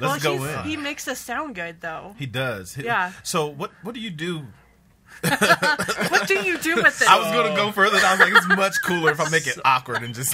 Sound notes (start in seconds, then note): 5.2 laughter